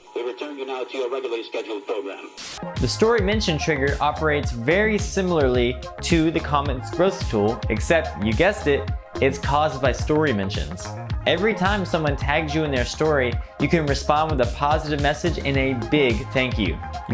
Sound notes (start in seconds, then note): 2.3 static hisses